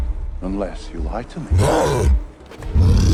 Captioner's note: cyclops roars